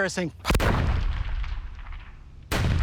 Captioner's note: gunshot